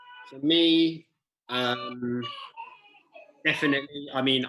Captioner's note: child crying